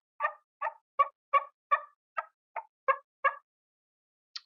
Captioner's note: turkey call sounds